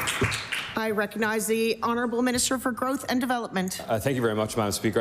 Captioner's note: applause